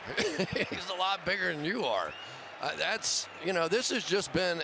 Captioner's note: laughs